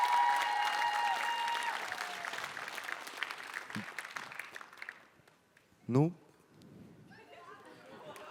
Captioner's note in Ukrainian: оплески